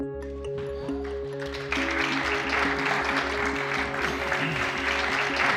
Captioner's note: audience applauds